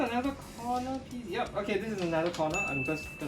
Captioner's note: alarm rings